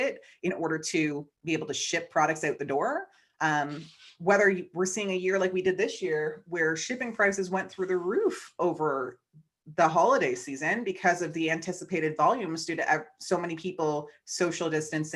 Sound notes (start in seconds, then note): none